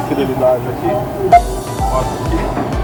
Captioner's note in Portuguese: beep